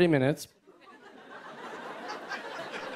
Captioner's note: laughter